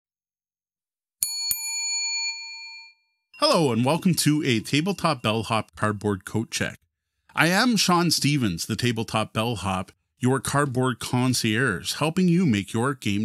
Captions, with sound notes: [Ding] Hello and welcome to a Tabletop Bellhop cardboard coat check. I am Sean Stephens, the Tabletop Bellhop, your cardboard concierge, helping you make your game